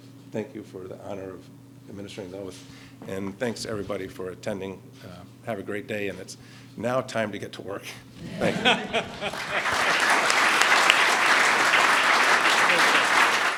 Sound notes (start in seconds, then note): 8.2 laughter; 10.7 applause